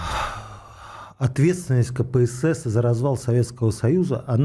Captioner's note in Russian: вздыхает